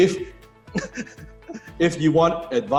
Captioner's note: laughs